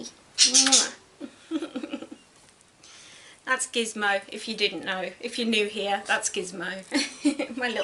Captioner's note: giggles